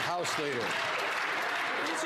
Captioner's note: some Applause